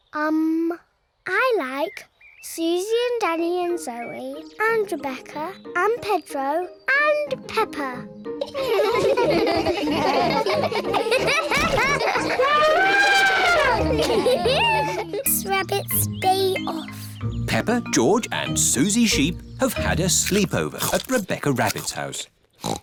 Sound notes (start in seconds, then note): 8.4 all laugh; 11.3 laughs; 12.4 trumpets; 22.6 snorts